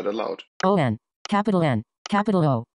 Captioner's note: iOS VoiceOver Voice